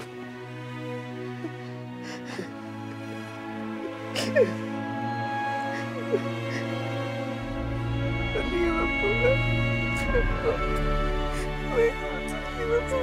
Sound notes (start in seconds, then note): 1.9 sobbing; 8.1 speaking German